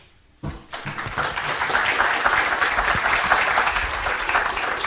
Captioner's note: audience applauds